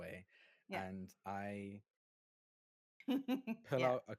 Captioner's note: chuckling